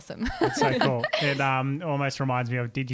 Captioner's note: laughing together